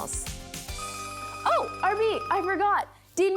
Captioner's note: telephone ringing